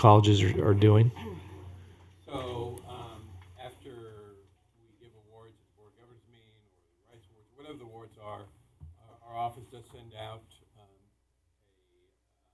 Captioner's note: off mic